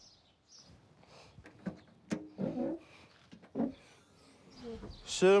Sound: boot door creaks

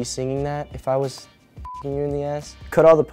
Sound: beep

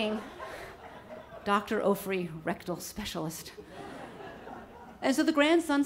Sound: audience laughs; audience laughs

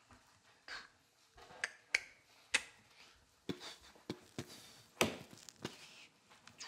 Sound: softly beat boxing

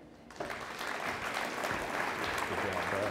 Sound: audience applauds

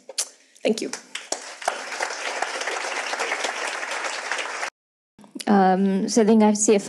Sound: audience applauds

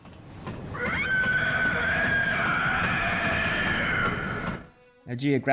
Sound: Cleric Beast screech

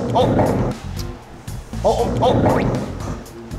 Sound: slurp

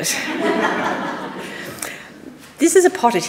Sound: audience laughing

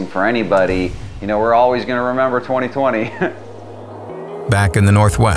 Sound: laughing

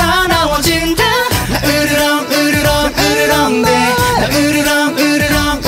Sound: growling

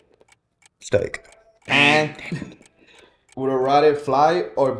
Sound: buzzer sounds

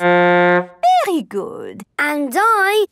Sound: horn blowing

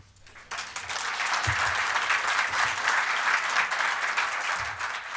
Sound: applause

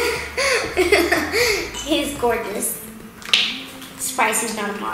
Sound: laughs

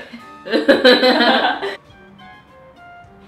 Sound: laughing

